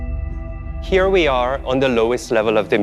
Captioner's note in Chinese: 英语